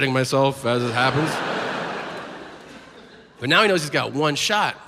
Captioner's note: audience laughs